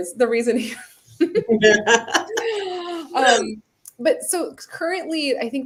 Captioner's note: laughter